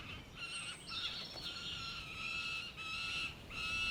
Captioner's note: falcons crying